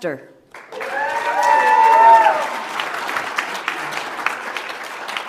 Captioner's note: audience applauds